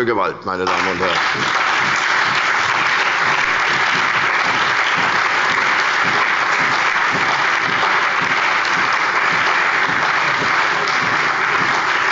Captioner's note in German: Lebhafter allgemeiner Beifall